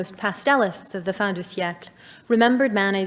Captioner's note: speaking in French